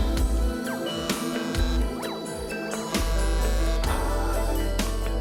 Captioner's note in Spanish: Vibra el celular